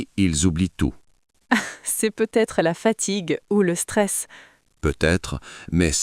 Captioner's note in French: rire